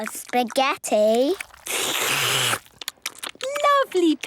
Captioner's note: all slurping